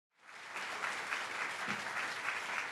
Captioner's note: applause